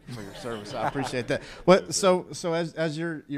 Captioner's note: crowd chuckles